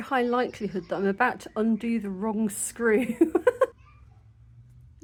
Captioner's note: laughing